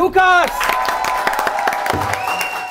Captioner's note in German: Jubel, Applaus